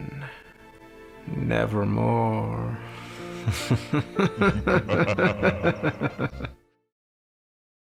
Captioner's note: creepy bowser's laugh